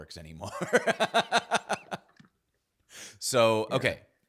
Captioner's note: laughs